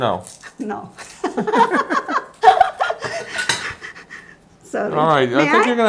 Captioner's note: laughs